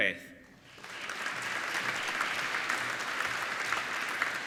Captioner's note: applauding